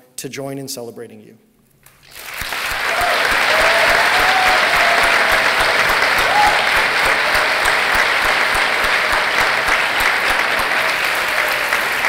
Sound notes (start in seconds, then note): 2.4 cheering